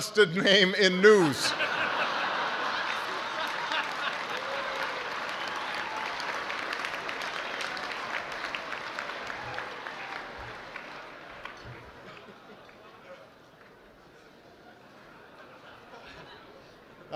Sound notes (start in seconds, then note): 5.0 laughter